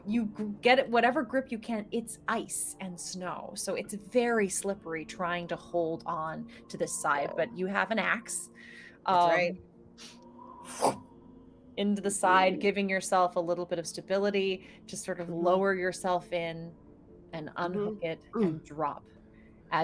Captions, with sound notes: You get whatever grip you can, it's ice and snow, so it's very slippery trying to hold on to the side. But you have an axe. - That's right. - (mouth whooshes air) Into the side, giving yourself a little bit of stability to sort of lower yourself in and unhook it and drop.